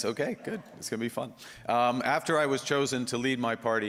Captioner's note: laughter